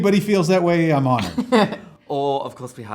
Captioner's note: laughs